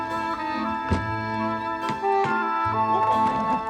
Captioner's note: tapping glass